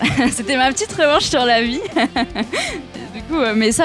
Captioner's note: laugh